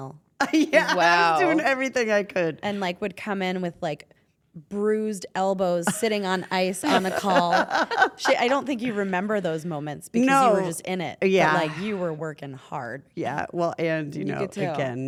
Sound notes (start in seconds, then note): 0.4 laugh; 6.8 laugh